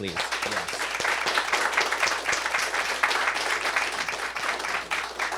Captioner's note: applause